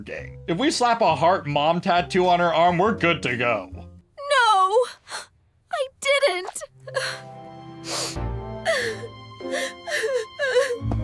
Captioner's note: sniffles